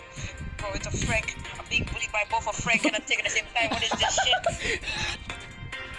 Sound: laughter

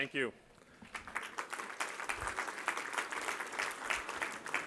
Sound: applause

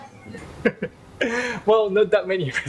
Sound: laugh

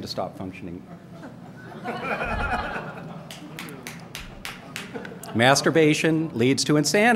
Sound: laughter

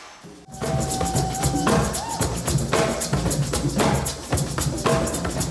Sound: whooping and drumming

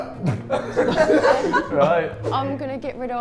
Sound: Sidemen laugh

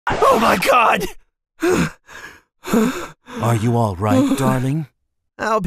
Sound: breathes

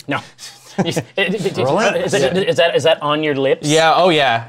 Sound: stammers

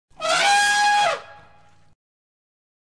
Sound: elephant trumpeting sound

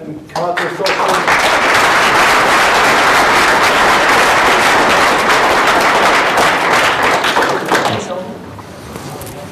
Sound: applause

